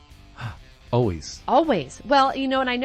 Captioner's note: gasps